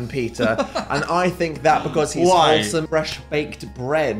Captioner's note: laughs